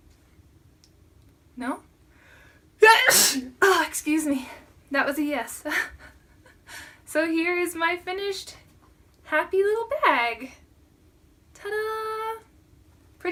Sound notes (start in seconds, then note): 2.8 sneezes; 6.1 laughter